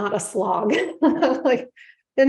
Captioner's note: chuckles